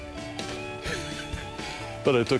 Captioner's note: laughs